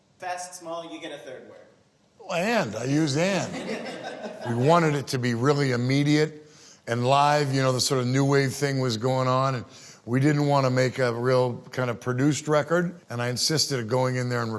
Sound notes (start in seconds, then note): 3.9 laughing